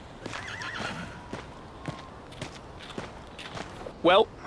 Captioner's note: horse neighing